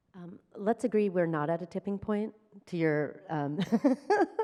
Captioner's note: chuckles